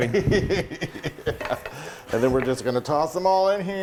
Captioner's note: giddy laughter